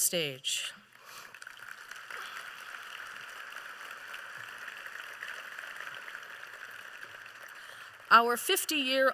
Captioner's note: applause